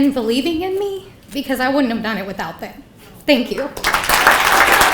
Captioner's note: people clapping